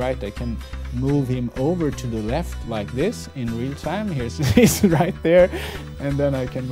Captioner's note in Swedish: skratt